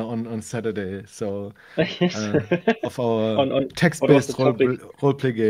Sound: faintly speaks

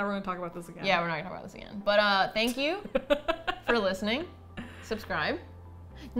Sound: laughing

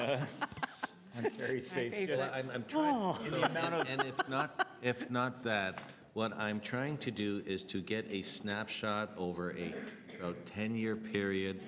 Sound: laughter

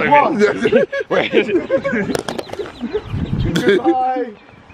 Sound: laughing

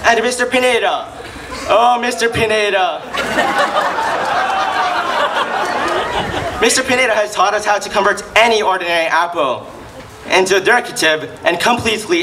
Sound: laughs

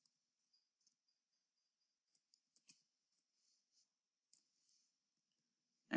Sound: typing

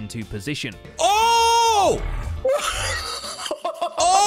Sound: laughing

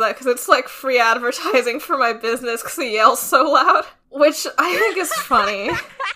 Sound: laughing

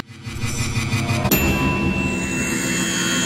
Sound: ding!!!

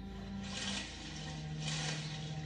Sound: splashing

